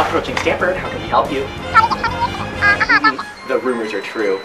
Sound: muffled cartoon phone

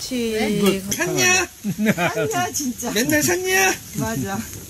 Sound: laughter

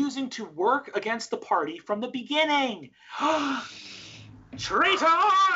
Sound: gasps

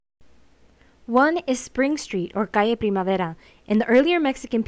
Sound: speaking in foreign language

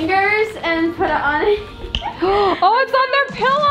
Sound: laughs

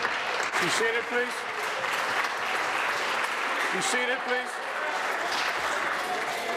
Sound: applause

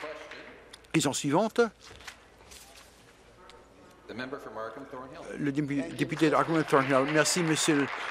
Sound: applause

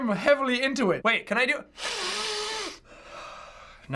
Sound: exhaling; sniffing

